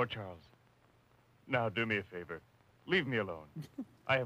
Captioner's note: chuckling